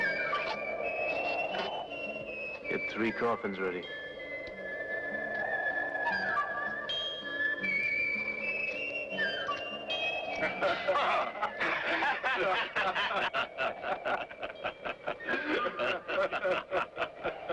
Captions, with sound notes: - Get three coffins ready. (mysterious western music) (men laughing)